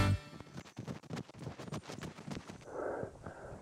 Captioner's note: running steps